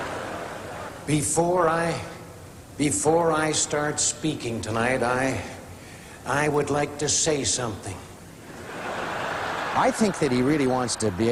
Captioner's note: laughter; laughter